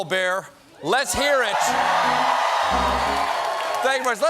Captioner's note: cheers and applause; piano riff